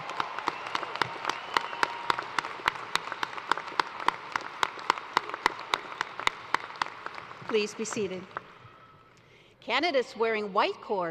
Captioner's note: cheers and applause